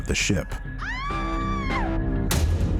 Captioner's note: woman screaming